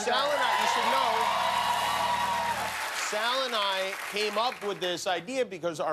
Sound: cheers and applause

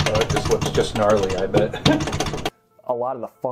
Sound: laughs

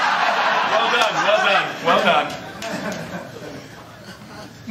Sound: laughter

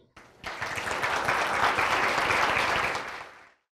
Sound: applause

